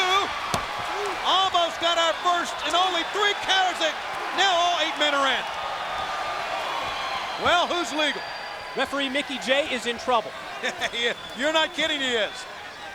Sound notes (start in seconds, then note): 5.7 applause; 11.1 laugh